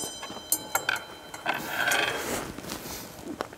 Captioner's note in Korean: 우당탕탕